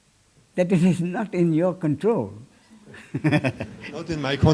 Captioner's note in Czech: smích